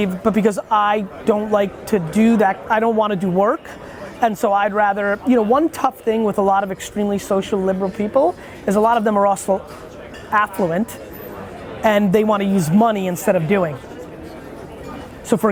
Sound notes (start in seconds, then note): none